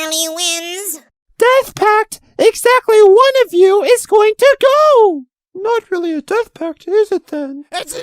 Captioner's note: muttered